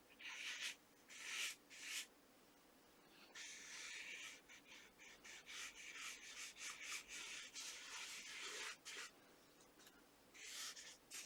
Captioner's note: pencil writing